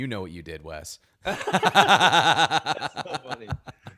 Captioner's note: laughing together